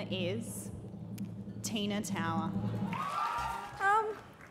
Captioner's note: cheering